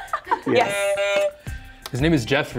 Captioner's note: buzzer sounds